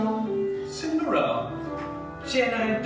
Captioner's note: speaking English; speaking Italian